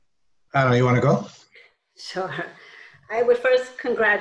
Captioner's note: laughs